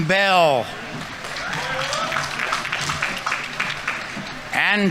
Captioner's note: audience applauding; audience members cheering